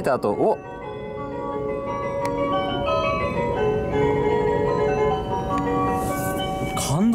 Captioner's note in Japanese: 車内チャイム